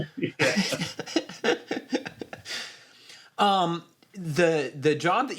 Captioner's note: laughter